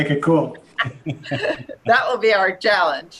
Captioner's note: laughing